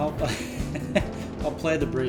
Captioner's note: laughs